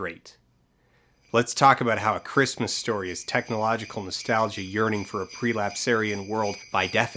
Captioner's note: sleigh bells